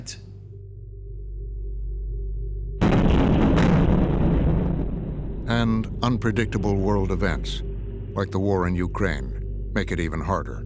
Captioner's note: explosion roars